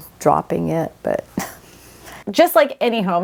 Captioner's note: laughs